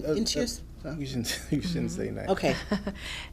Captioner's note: chuckles; chuckling